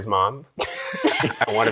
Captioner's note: laughter